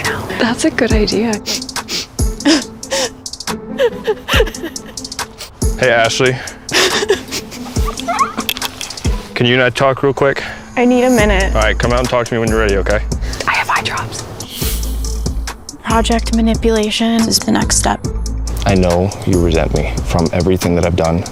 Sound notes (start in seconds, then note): 1.7 whimpering, crying; 6.6 fake crying; 6.6 girls laughing